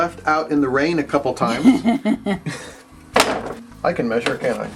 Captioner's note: woman laughing